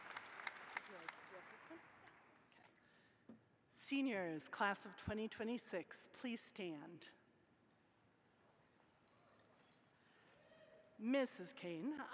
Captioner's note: applause